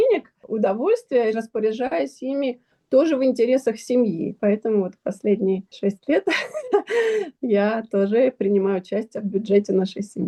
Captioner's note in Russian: смех